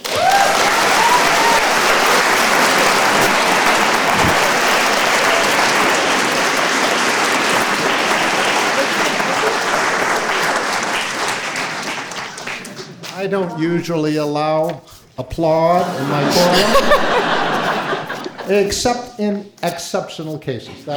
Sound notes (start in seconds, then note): 0.3 audience applauding; 15.8 audience laughing